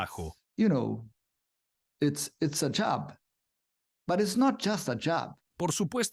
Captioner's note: Hablando idioma extranjero